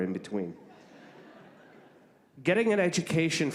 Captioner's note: laughing